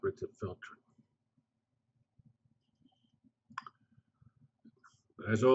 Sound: pause

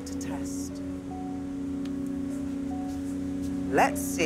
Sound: humming

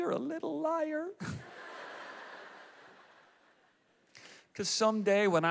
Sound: audience laughs

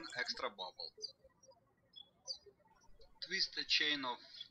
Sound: birds chirping

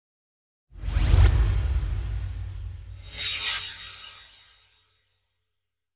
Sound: swoosh

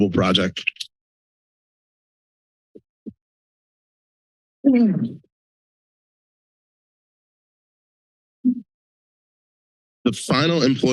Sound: silence

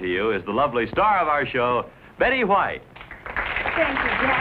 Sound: audience applauding

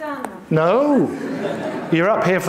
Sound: audience laughing

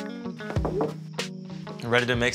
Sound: upbeat music; cellphone chimes; knocking

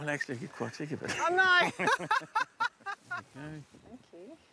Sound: laughs

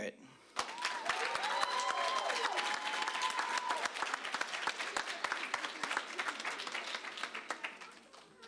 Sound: applause, cheering

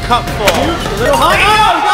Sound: beeping

